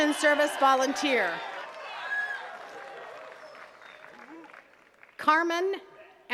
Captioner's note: attendees cheering and clapping